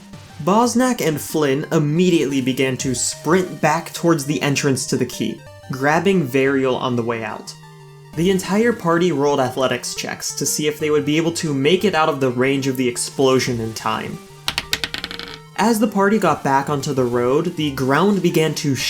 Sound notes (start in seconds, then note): 14.4 die Roll Noise